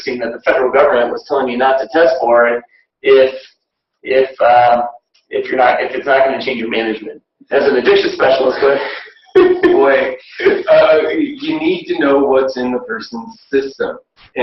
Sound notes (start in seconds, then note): 9.2 laughing